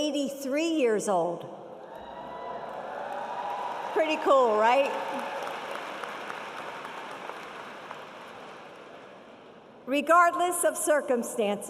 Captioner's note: applause